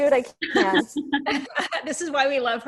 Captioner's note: laughter